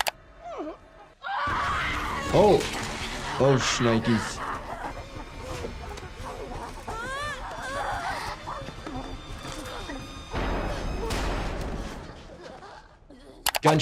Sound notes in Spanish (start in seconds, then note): 1.2 gritos infectados; 4.5 gruñidos infectados; 7.2 Ellie gimiendo; 11.2 disparos de arma de fuego